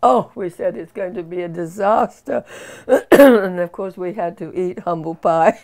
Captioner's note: coughs